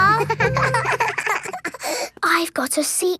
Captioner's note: both giggling